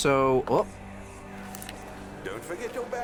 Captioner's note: whispers a-whisperin'